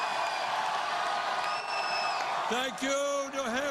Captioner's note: cheers and applause